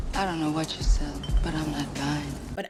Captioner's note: beep